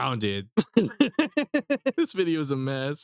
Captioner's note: laughing